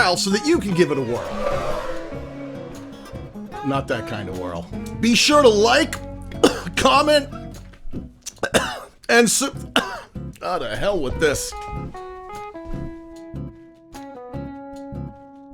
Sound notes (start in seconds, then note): 0.8 whirling sound; 8.2 cough